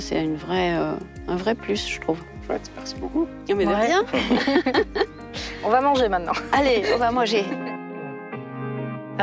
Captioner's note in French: rires